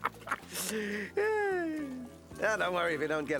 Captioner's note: sighs